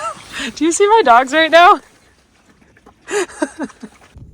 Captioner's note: laughing